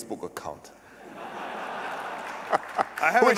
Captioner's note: laughter and applause